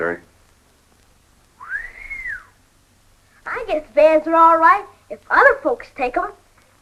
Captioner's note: whistles